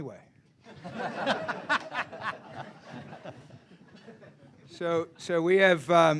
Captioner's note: laughter